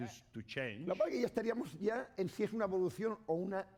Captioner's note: speaking spanish